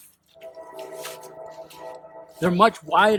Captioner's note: train whistle